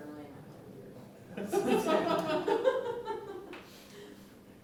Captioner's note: laughter